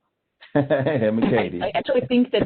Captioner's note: laughing